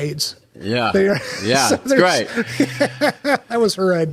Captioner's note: Gilligan laughing